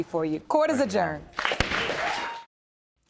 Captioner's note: applause; cheering